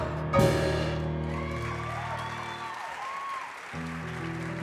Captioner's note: audience applause